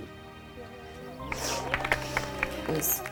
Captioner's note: women applauding